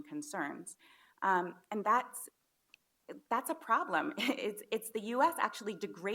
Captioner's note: chuckles